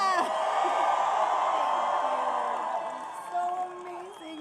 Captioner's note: applause